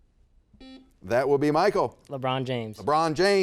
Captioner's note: buzzer beeps